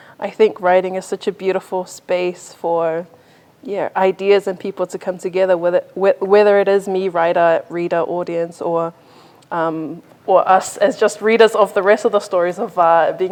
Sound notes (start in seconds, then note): none